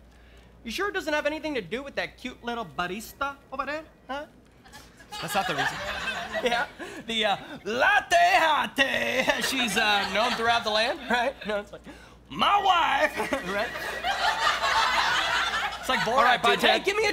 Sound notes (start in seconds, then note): 12.5 in Borat voice